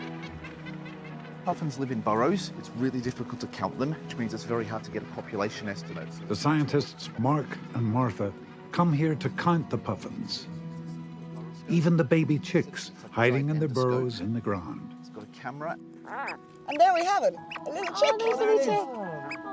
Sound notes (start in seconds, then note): 16.0 squeaking